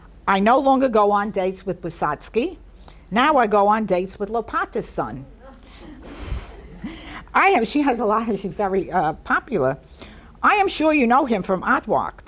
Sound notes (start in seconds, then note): 5.2 laughs; 5.3 people in audience laugh